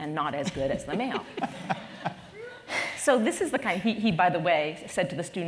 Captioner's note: laugh